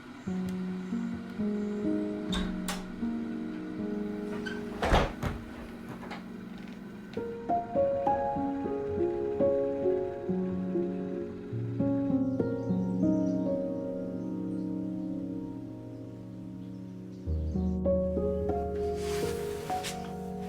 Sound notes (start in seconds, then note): 0.2 piano music playing; 4.2 door closes; 12.9 birds chirping